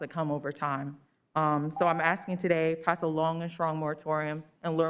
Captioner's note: beep